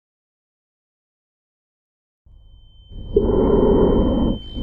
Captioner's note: heavy breathing